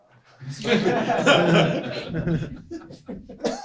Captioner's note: laughter